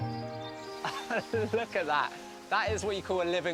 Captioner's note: laughing